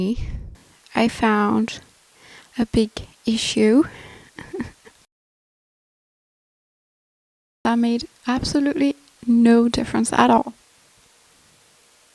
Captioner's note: nervous laugh